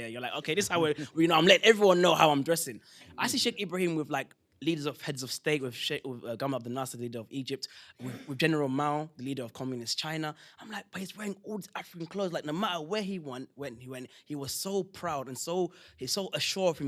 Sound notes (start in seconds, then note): 6.1 non-english